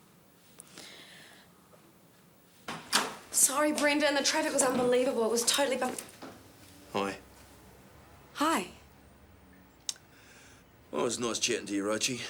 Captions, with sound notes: (door clicks) - Sorry, Brendan, the traffic was unbelievable, it was totally bump. - Hi. - Hi. - Well, it was nice chatting to you, Roachy.